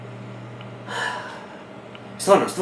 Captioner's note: sighs